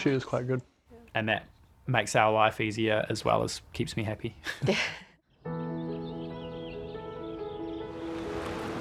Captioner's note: chuckles; cheerful piano music